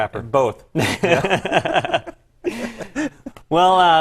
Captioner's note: laugh